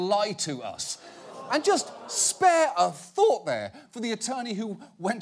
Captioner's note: audience gasping